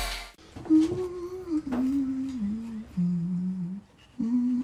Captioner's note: Maud Lewis humming to herself